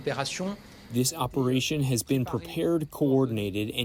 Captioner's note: through translator